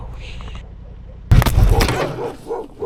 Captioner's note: crash bang